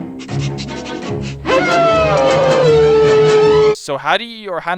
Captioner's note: Trusty howling